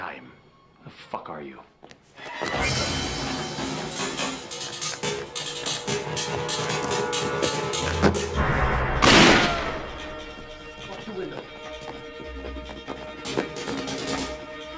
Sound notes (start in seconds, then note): 2.2 action music; 8.4 gun firing; 11.7 action music